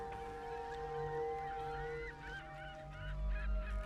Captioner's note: seagulls mewing